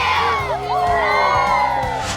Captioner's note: all cheer